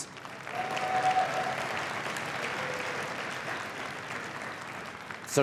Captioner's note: cheering and applause